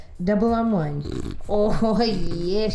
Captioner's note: grunting